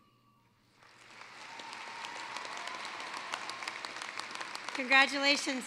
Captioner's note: applause